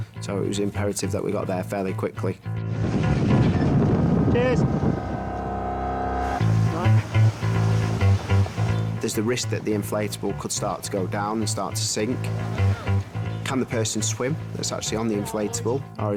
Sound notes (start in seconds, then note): 2.6 boat engine revving; 5.4 dramatic music; 11.9 dramatic music